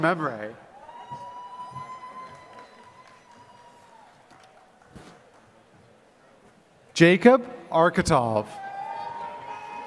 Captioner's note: applause